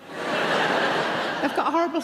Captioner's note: audience laughing